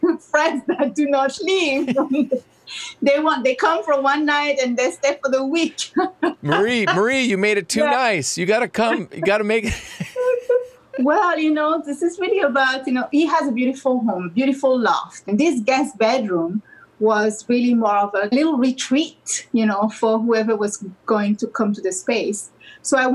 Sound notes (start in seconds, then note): 0.0 laughs; 1.5 both laugh; 5.6 laughs; 10.3 both laughs